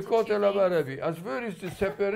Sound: non-english

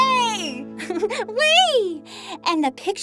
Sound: giggles

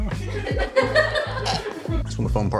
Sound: laughing

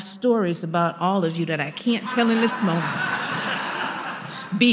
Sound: laughter

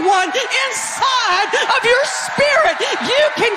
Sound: audience cheering

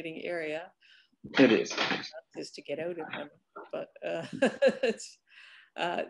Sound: laughs; laughs

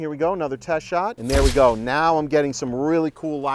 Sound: shutter snaps

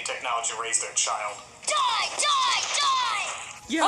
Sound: Mike Teevee Yelling

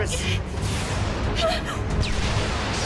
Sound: gasps

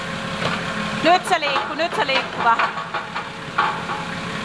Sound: in Finnish

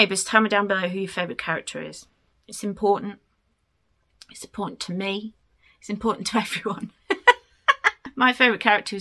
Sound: laughs

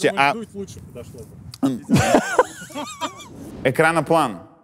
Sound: both laugh

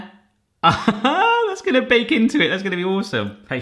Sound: laughs

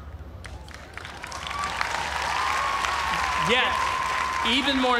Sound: cheers and applause

